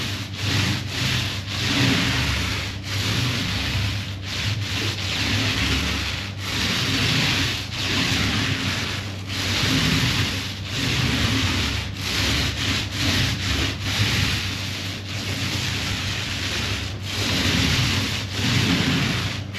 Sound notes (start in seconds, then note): 3.6 paint rolling